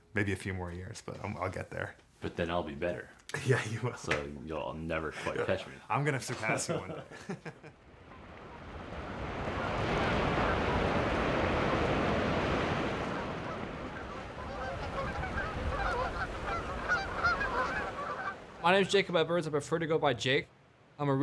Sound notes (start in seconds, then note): 3.3 laughs; 6.0 laughs; 8.0 ocean crashing; 13.0 geese honking